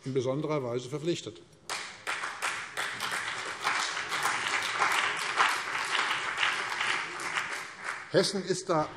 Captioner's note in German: Beifall CDU und BÜNDNIS 90/DIE GRÜNEN